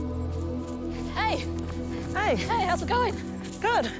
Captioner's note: footsteps scuff